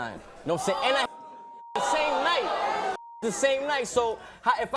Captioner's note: beep